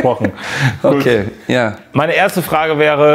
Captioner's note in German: Lachen